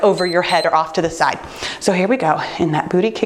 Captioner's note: timer beeps